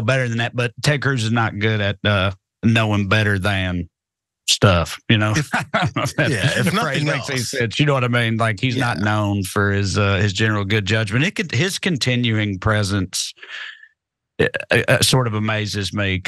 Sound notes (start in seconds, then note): 4.7 laugh